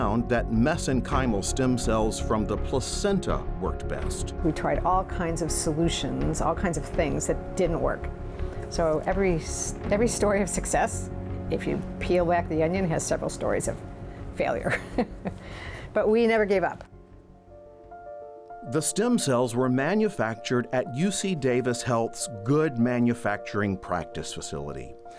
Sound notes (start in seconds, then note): 14.6 chuckles